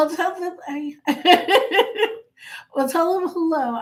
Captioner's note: laughing